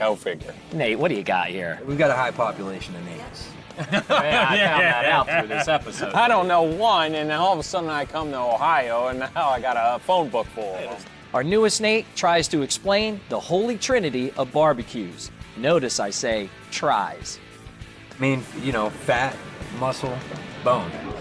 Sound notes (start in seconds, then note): 3.7 laughter